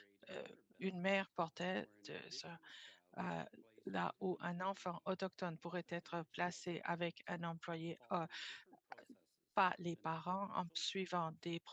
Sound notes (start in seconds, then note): 0.1 speaking French